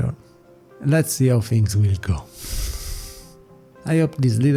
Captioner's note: exhale